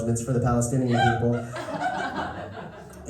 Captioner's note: laughter